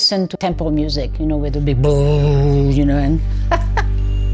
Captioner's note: laughs